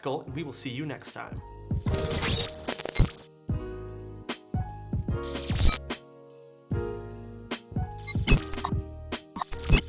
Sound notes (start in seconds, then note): 2.0 glass tinkling; 4.0 smooth jazz music; 5.5 scratching